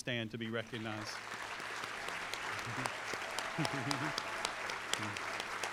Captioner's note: applause